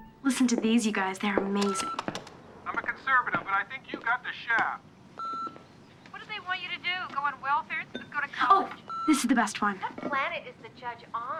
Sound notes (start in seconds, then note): 2.2 beeps; 4.6 beeps